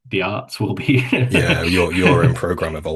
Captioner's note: chuckles